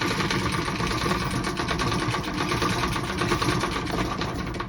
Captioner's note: anchor chain rattling